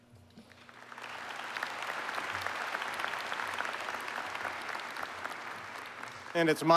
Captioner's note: applause